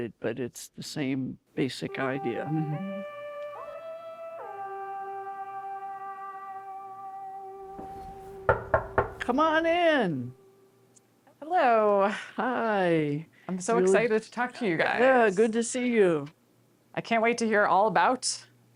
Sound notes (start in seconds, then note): 7.8 knocking on door